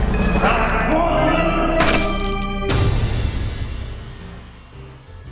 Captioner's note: bat splats; mellow music